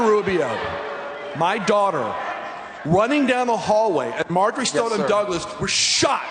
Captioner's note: audience reacting